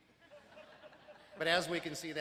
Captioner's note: crowd laughing